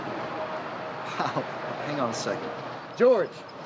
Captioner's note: chuckles